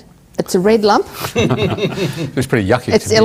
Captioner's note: laughter